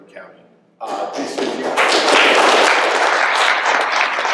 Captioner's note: applause